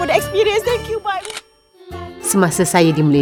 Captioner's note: camera snap